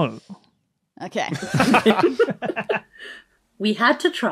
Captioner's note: others laughing